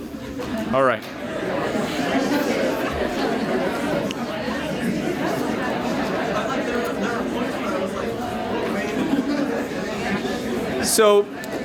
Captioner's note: audience chattering